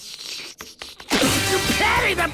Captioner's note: slurping; spitting